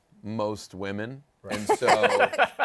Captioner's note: laughter